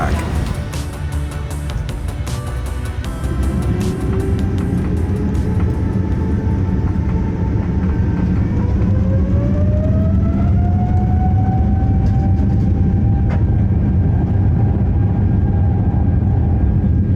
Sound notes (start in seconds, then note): 0.3 upbeat music echoes; 6.8 aeroplane engine roars